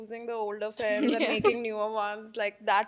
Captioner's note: laughs